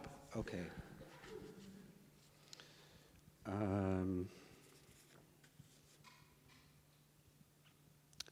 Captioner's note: paper rustles